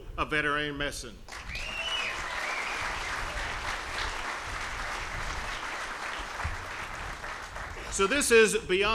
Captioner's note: applause